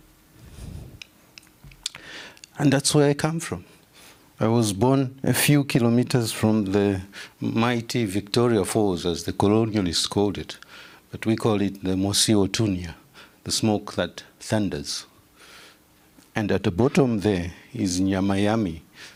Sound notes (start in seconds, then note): 11.9 non-english speech; 17.7 non-english speech